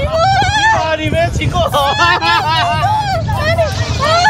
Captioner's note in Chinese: 大笑